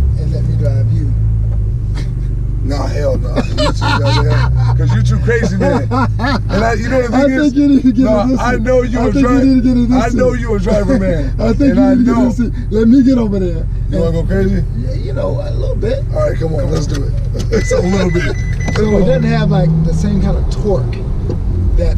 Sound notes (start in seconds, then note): 2.1 laughing; 3.7 murmurs; 6.4 laughing